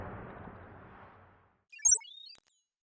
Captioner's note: electronic trilling